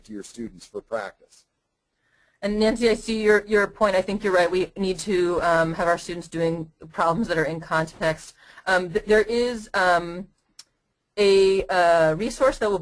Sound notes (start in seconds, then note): 2.1 voiceover